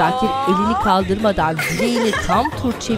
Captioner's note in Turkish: Gülme sesi